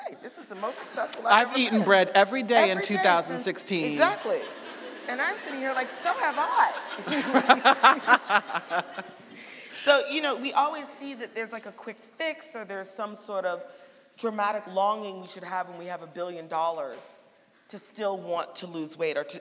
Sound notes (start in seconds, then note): 3.9 audience laughing; 7.2 laughing